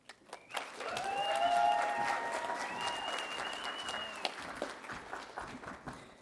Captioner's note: audience applauding and cheering